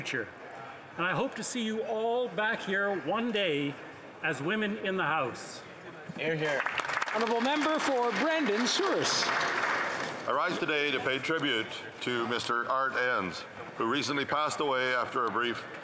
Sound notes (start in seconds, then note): 9.2 some Applause